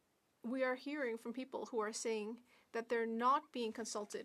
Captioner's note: speaking French